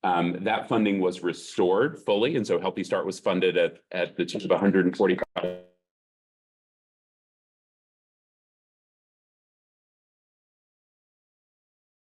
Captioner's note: audio dropped out